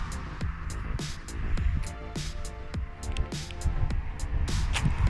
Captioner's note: traffic